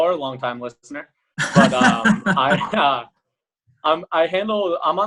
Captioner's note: laughing